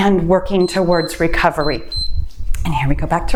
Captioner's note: timer beeps